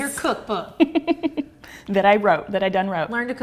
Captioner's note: giggling